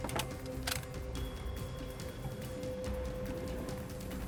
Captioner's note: rifle cocks; dramatic music